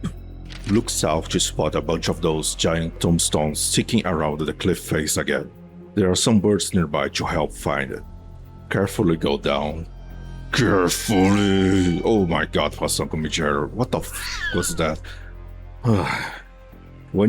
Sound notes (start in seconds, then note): 15.8 sigh